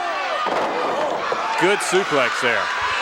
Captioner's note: body thuds